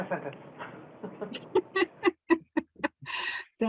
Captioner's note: laughs